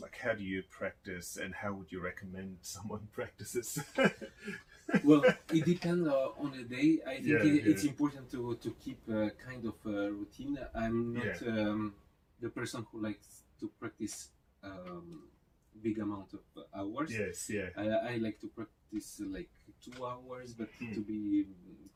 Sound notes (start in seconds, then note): 3.4 laughs